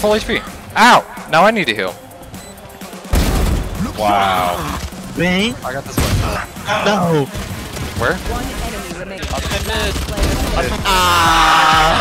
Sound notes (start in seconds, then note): 3.1 gun bangs; 9.5 guns firing